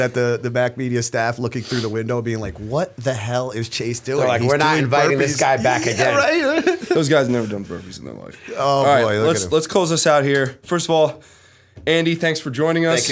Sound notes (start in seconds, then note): 6.6 chuckle